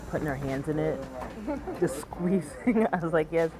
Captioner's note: laughs